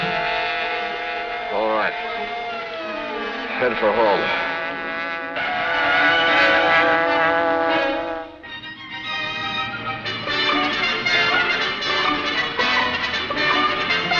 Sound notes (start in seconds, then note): 6.0 tires screech; 9.3 playful music